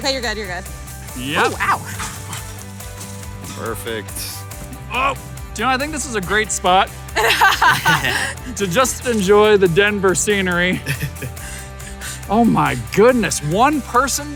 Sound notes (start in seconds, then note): 7.1 both laughing; 11.5 panting